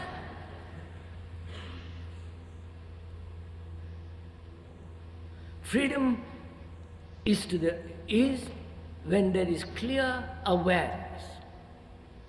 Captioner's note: laughter